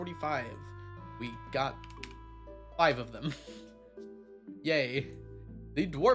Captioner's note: chuckles